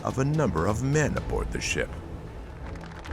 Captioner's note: audience clapping